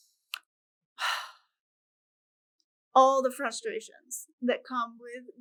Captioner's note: sighs